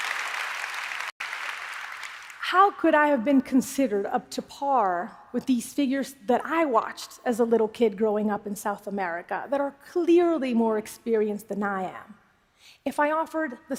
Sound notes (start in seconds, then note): 2.4 applause